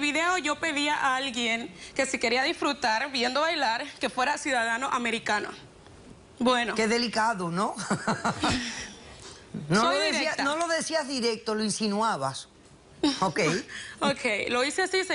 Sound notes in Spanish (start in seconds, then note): 7.8 risas